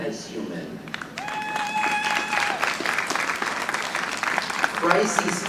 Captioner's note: audience applauding